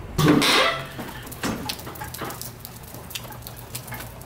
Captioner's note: door creaking open